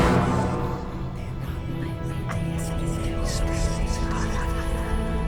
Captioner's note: Celtic whispers